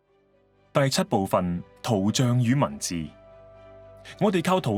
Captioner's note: Cantonese